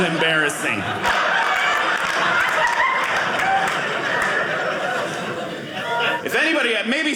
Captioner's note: audience laughing